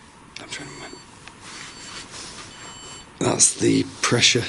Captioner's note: pressure sensor beeping